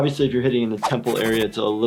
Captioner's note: scribbling noises